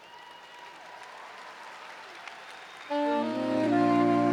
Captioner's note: cheers and applause